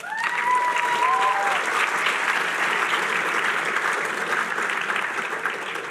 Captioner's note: applause